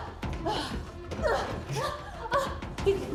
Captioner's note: both grunting